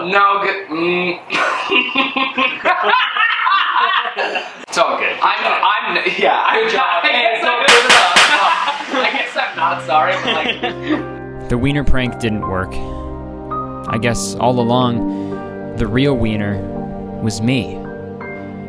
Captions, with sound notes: - No, cause, mm. (laughing) (laughing) - It's all good, so. - I'm, I'm, yeah. - Good job. - Hey, let's go, give it up! (hands clapping) - (laughing) I guess I'm not sorry for like... (solemn music) - The Wiener Prank didn't work. I guess, all along the real wiener was me.